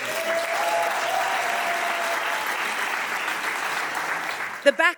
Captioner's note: audience applauding